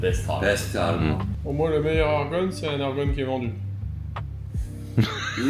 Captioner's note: French